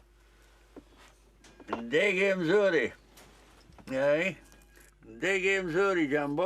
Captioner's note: guy speaking in foreign language